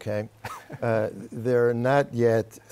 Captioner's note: laughter